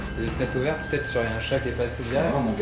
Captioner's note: speaks French; both speaking French